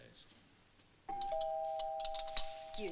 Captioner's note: door bell